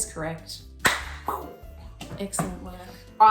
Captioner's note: claps